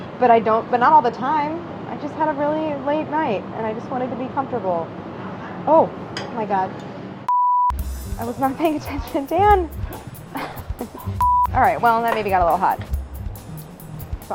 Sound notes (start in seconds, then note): 7.2 beeps; 10.6 laughs; 11.1 beeps